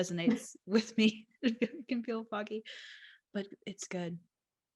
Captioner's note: laughs